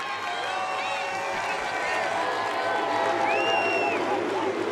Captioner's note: crowd cheers and barks